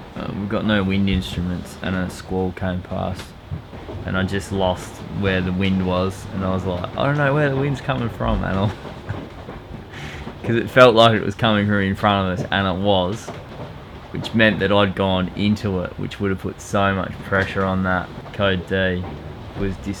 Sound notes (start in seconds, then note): 8.2 laughing